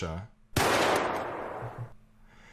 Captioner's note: gun shot noise